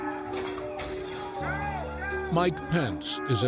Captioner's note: glass breaking